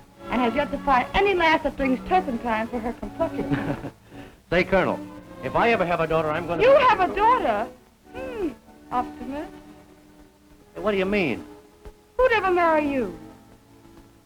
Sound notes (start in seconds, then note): 3.3 chuckles